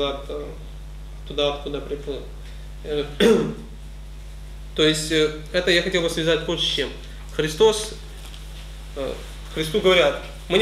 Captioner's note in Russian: кашляет